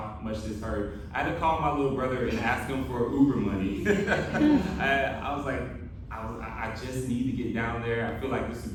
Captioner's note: laughter